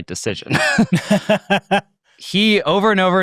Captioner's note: hosts laughing